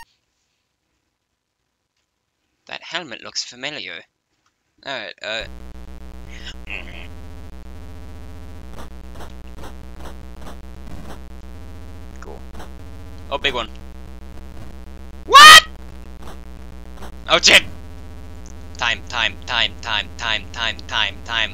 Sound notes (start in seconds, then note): 6.6 imitates the low humming sound you hear during gameplay for a second